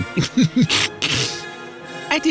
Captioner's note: yet more nerd laughing